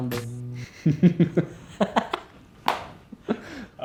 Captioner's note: laughter